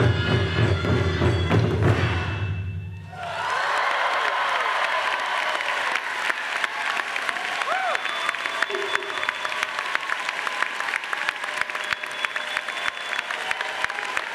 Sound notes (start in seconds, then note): 3.2 crowd cheering and applauding